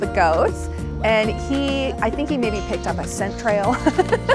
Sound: laughs

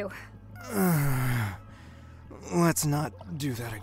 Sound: pained groan

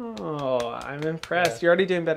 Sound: claps

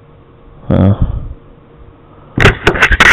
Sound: le sigh

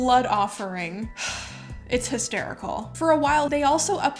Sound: sighs

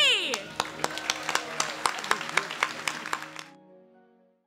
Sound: clapping

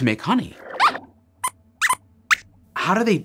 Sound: squeaks squeaks

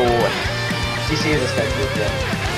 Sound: mumbling

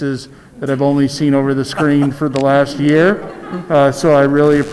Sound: audience laughs

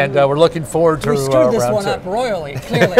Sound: laughs

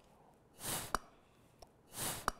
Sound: breathes powerfully

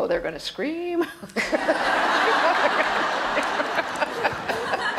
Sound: audience laughs loudly

